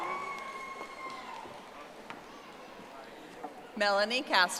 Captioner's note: audience applauding